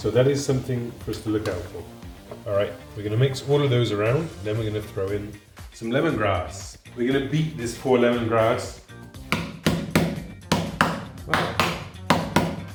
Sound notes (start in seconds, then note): 9.5 banging